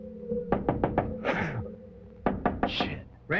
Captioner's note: knocking